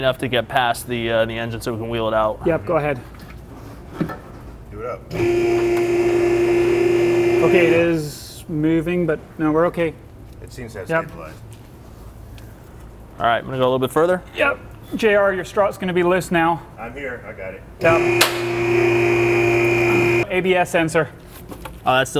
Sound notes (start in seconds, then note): 5.1 lift whirring; 17.8 lift whirring